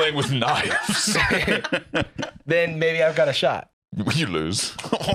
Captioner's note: laughs